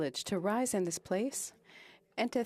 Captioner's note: speaking French